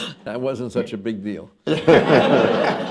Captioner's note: laughter